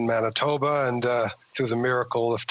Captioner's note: speaking French